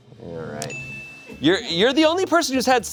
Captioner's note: chime dings